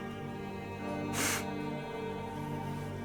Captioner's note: sniff